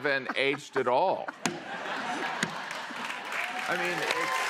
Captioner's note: laughter